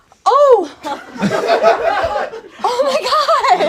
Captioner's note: audience laughs